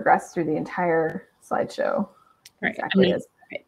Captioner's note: chatter